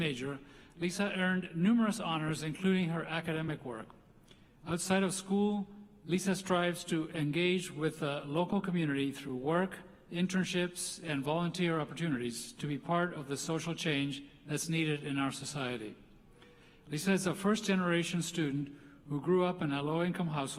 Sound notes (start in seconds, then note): none